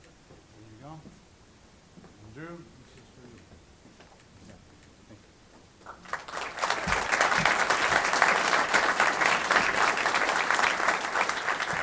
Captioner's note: applause